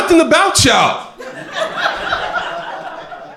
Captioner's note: crowd laughing